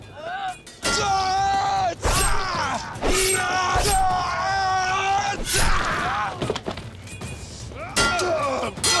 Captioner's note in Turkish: Dövüş sesleri; Kılıç sesleri